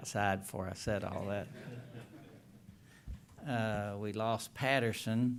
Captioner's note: laughter